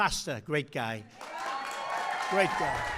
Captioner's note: applause